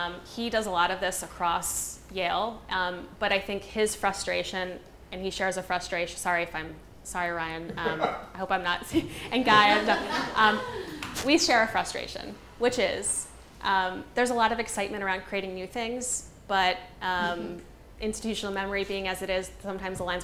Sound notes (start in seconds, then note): 8.9 people laughing